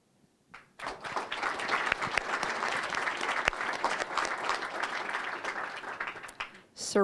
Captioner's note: applause